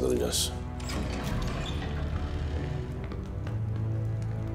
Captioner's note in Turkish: Kapı açılma sesi